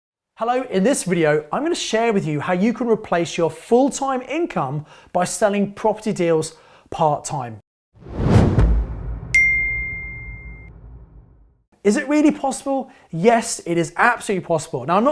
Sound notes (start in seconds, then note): 8.0 ominous thud; 9.3 ding